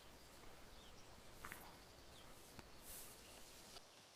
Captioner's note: footsteps